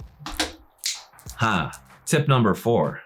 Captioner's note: finger clicks